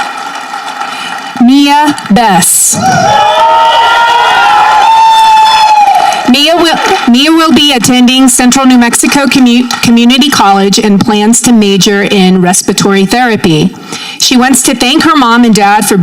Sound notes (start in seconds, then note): 3.1 audience cheering